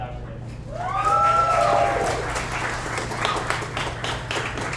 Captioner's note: audience applauds